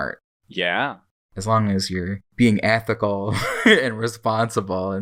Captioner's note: laughs